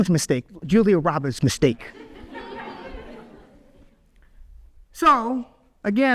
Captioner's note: audience laughs